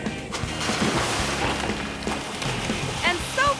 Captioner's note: water splashes